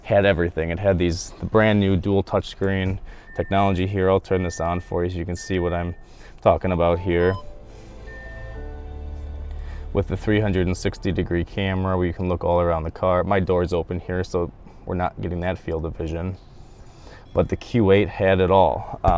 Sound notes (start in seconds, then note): 6.6 car interface chimes